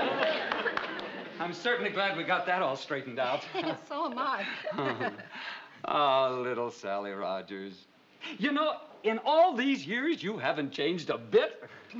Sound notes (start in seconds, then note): 4.4 chuckels